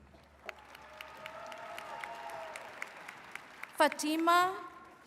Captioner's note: attendees cheering and clapping